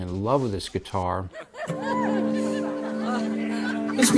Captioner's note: laughter